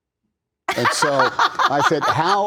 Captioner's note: laughter